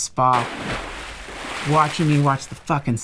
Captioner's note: splashes